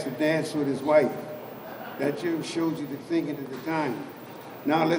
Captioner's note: laughter